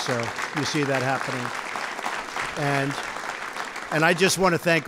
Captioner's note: applause